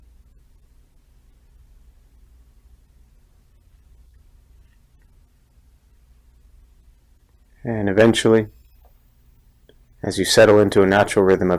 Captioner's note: silence